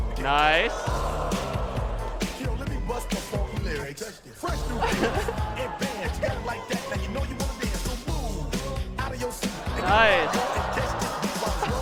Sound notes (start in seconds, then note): 2.2 singing; 4.6 laughter; 11.5 audience gasping